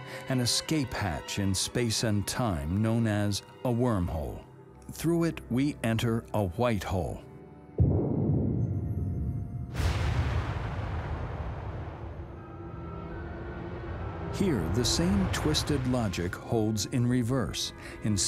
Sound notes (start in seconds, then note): 7.8 explosion blasting